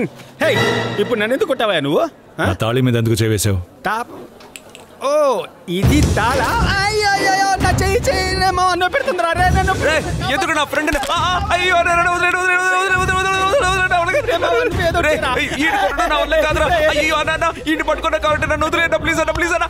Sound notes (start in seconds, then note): 6.7 groans; 11.4 groans